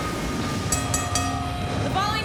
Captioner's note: bell dinging